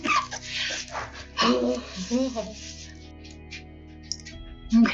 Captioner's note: giggles